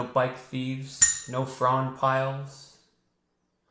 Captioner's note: bell dings